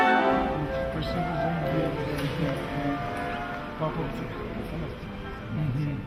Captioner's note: people chattering in the Russian language